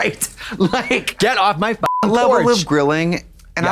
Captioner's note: beep